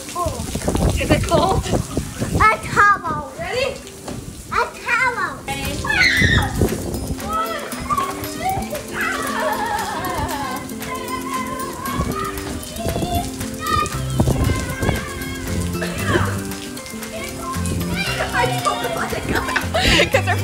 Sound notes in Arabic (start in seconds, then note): 5.8 صراخ; 7.4 صراخ الأطفال